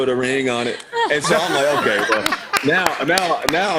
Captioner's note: laughter